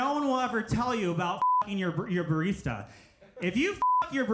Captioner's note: beep